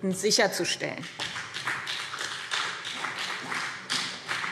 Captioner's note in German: Beifall BÜNDNIS 90/DIE GRÜNEN und CDU